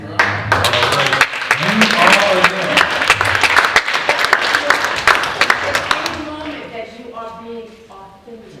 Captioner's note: applause